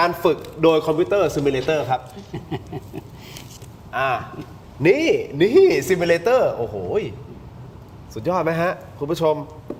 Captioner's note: laughs